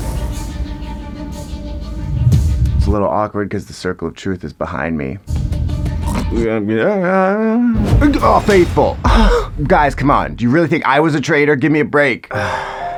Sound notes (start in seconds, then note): 0.0 dramatic tense music; 6.2 ENFP snorts and chatters gibberish; 9.1 ENFJ sighs; 12.3 ISTJ sighs; 12.3 somber music